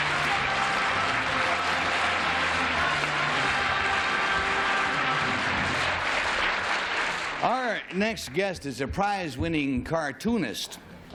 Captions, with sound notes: [theme music] [applause] Our next guest is a prize-winning cartoonist.